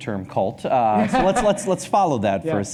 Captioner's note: laughs